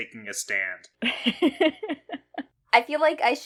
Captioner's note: laughs